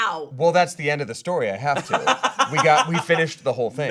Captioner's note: laughing